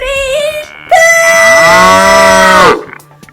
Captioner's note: cow mooing